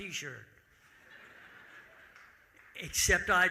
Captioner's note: audience laughing